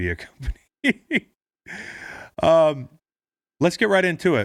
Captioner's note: laughing